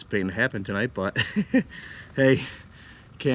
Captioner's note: laughs